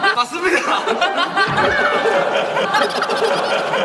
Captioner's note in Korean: 푸흡